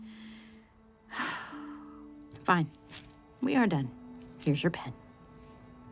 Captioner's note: sighs